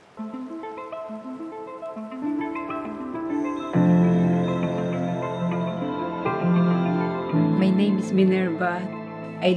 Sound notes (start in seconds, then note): 3.2 insects chittering